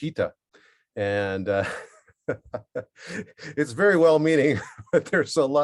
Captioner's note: LAUGHs